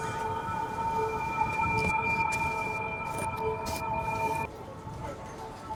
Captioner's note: high frequency humming